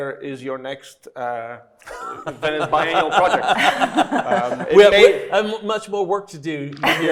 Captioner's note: everybody laughing